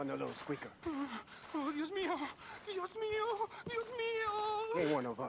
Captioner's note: in Spanish